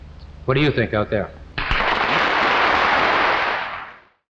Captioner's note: audience applauding